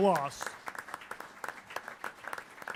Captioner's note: applause